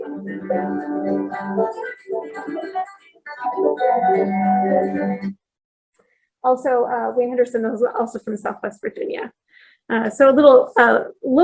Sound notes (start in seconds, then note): none